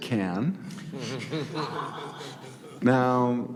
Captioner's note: all laughing